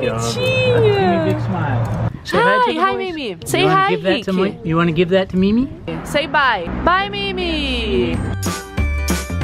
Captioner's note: english conversation; background music playing